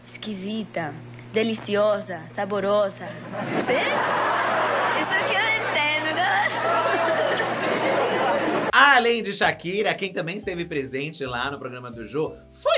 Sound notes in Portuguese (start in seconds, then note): 3.1 plateia ri; 5.1 risos